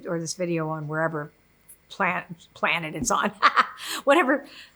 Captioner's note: laughs